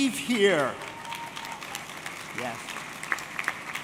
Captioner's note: audience clapping